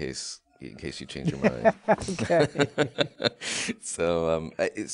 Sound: both laughing

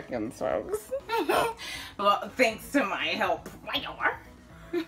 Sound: laughs aghast

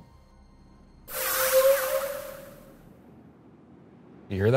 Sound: portal swooshing

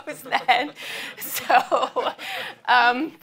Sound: audience laughs

